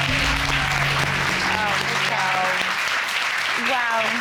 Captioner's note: loud applause